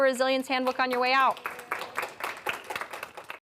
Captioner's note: audience applauding